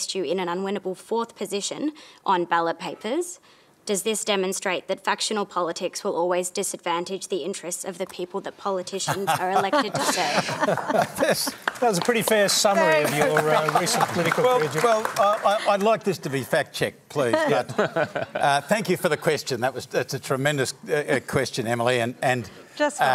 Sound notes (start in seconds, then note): 9.2 laughter and applause